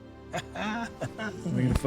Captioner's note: Winston laughing